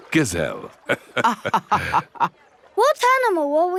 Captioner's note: both laughing